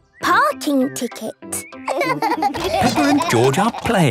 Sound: laughing

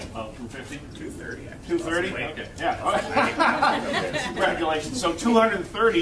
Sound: laughter

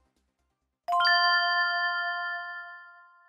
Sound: chimes

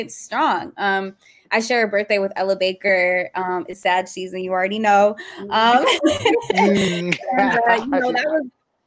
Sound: laughter

